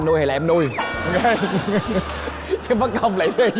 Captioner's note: laughing